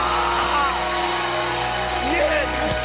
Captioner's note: cheers and applause